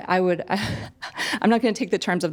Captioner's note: chuckling